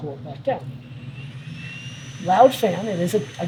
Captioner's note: device whirring